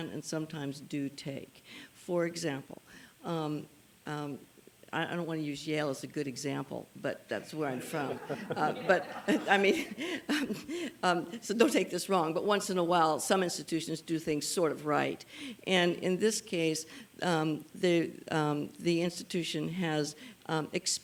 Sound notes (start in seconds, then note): 7.8 chuckles